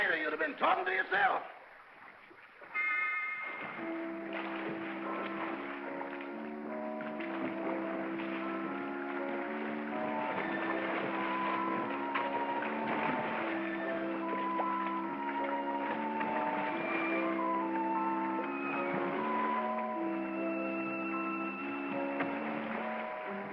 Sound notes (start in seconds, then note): 2.7 ominous whimsical music; 2.7 water splashing